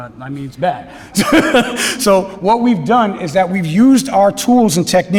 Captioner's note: laugh